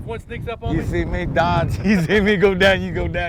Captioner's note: laughing